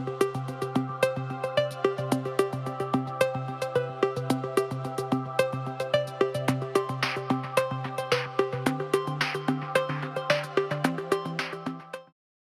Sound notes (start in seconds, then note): 6.6 applause